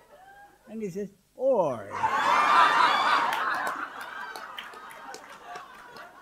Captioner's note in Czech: smích